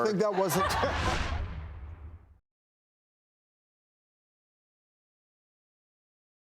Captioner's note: air whooshes